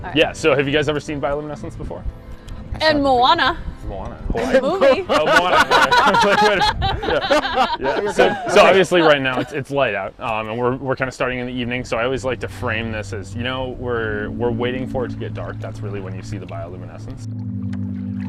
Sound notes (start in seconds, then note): 4.4 laughs